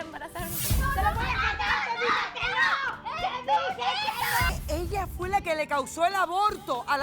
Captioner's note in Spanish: Gritos